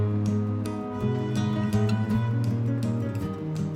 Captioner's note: horns honking